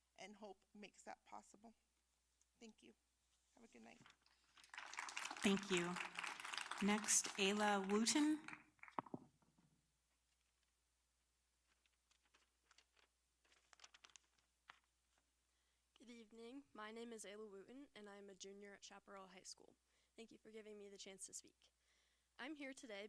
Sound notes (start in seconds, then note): 7.0 applause